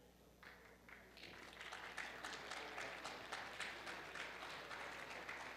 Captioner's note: audience applauds